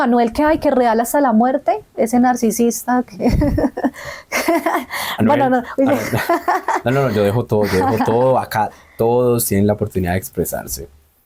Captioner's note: laughs